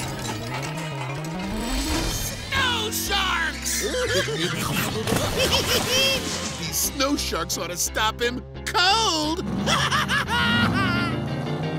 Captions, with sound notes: Snow Sharks! [giggling] These Snow Sharks oughta stop him... cold! [laughs]